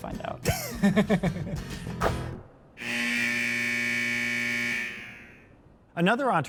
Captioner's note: both laugh